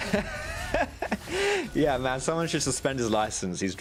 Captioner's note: laughing